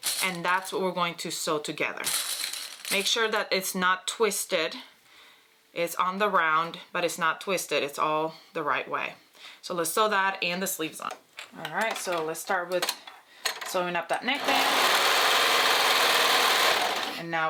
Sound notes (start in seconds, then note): 2.2 metal clanging; 14.3 sewing machine whirring